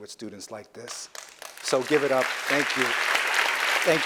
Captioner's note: applause